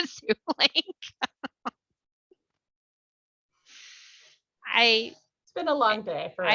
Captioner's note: laughter